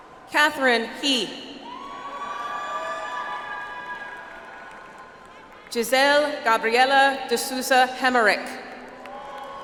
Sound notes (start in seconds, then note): 2.4 audience applauds; 9.0 audience applauds